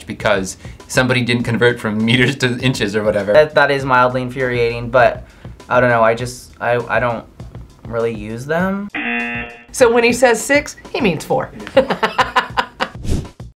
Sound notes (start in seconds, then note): 8.9 buzzer rings; 12.7 laughs